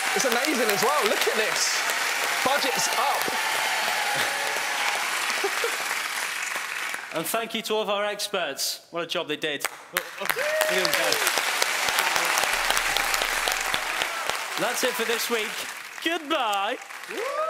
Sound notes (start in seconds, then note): 0.0 applauding; 9.6 applauding; 17.3 cheering